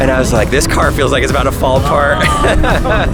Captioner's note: laughs